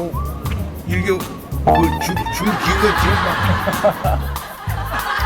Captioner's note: stammering from shock